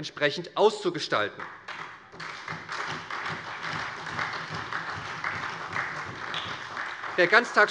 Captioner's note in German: Beifall bei der SPD